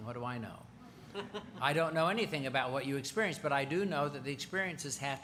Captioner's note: laughter